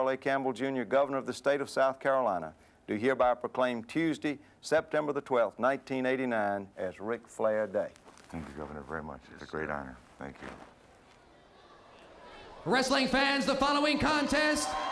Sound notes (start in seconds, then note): 13.0 crowd chatter